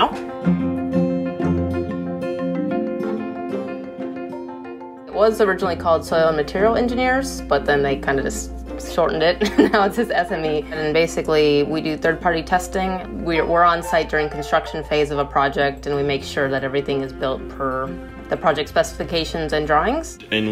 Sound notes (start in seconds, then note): 0.3 flowing music; 9.4 laughs